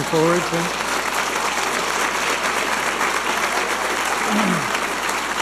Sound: audience applauding and cheering

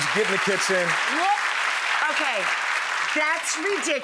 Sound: clapping

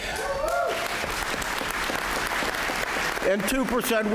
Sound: applause

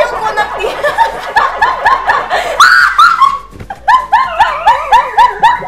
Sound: speaking in foreign language; screaming and laughing

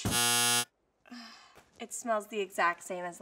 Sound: error buzzer

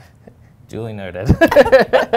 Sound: laughing

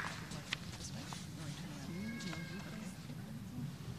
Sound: applause

